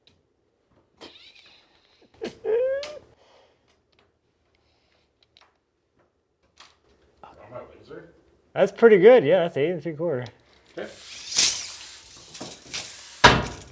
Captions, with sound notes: (laughs) - I don't know, is there? - That's pretty good, yeah, that's eight and three quarter. - Okay.